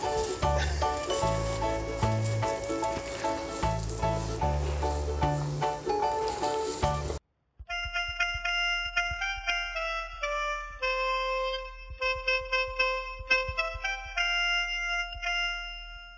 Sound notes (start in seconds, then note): 4.7 laughs